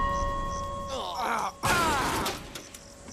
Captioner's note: dings; all sigh